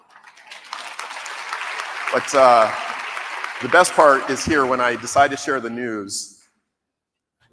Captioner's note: applause